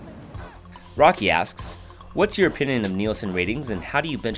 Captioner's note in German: Voice-over